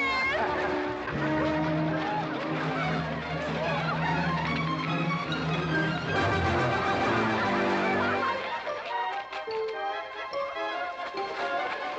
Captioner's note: amused crowd noises